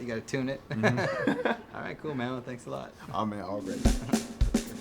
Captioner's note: laughter